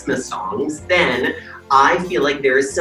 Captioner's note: bells jingling